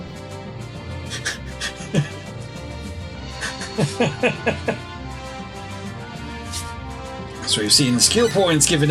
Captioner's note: laughs